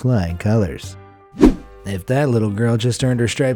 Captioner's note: air whooshing